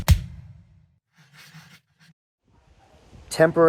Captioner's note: drum beats; paper scratching